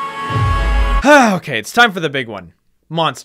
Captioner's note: sigh